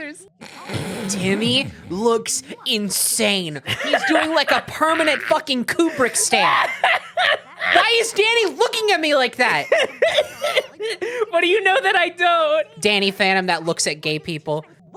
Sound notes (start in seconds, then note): 0.6 stifling laughter; 3.6 laughing